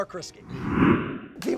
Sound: air whooshing

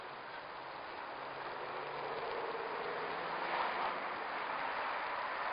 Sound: traffic whirring

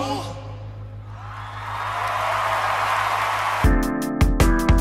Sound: audience cheering; upbeat music

